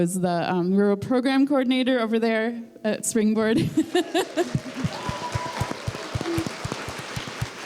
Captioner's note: applause